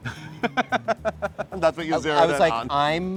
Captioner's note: laughs